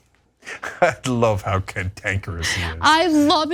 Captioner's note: laugh